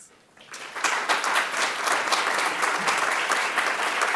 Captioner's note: applause